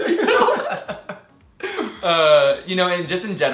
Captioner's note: laughing